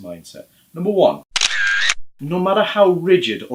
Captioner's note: camera shutter